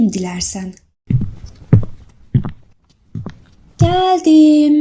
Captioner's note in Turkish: Ayak sesleri